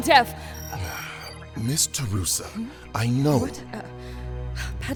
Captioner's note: Bax Sighs